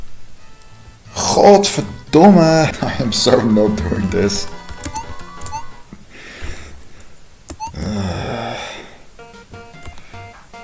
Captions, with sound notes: GODVERDOMME! (chuckling) I am so not doing this! [sigh of slight despair]